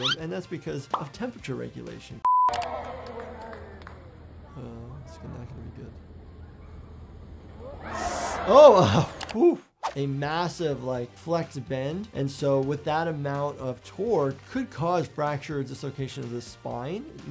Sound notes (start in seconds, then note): 2.5 crowd cheers, applauds; 7.6 crowd shouts